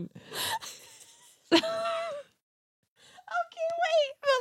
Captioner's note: laughs